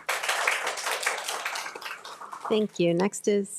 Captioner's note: attendees applauding